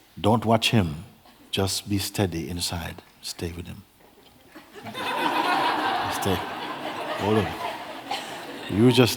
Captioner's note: laughter